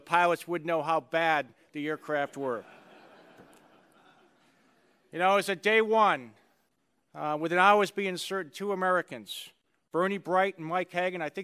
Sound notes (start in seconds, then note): 2.2 laughter